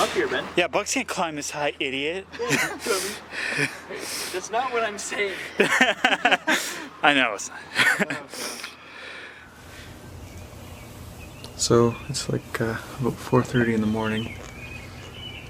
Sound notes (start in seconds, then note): 2.2 laughing; 5.2 both laughing; 8.0 laughing